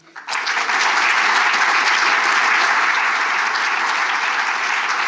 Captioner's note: audience applauding